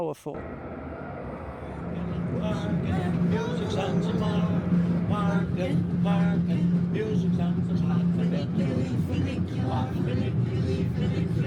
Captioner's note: tramway sounds; tourists singing